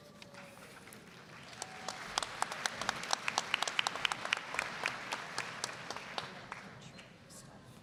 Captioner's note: applause